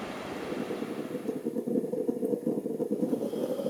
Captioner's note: coffee boiling